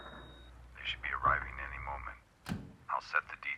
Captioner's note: on phone